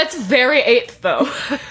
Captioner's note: laughing